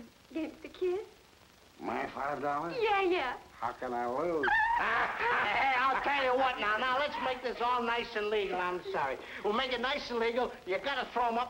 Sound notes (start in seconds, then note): 4.4 woman delighting; 4.6 man laughing